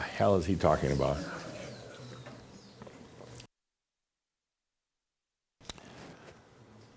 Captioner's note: a few chuckles